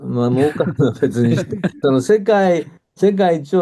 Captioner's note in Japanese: 笑い